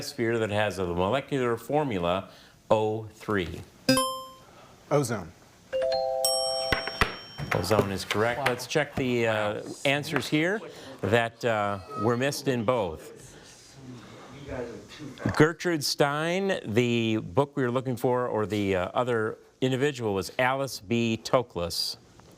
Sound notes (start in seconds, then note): 3.9 buzzer chimes; 5.8 bell chimes